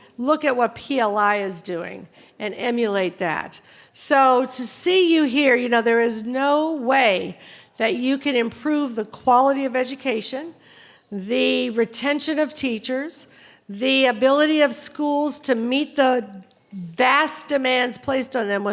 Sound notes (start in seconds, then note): none